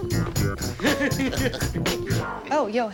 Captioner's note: laughing